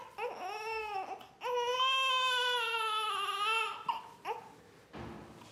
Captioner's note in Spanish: bebé llora fuerte